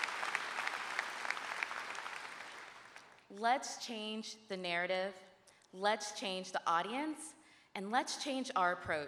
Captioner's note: applause